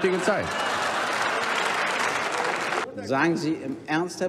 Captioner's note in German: Gelächter und Applaus